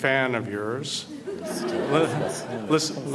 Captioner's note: audience Laughter